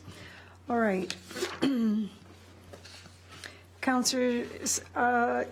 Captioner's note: clears throat